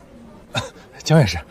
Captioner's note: cough